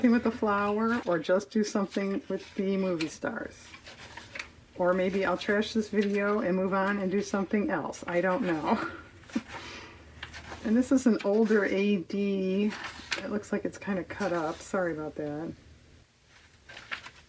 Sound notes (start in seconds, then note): 8.6 laughs